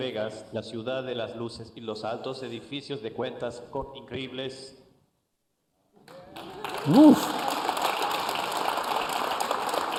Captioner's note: applause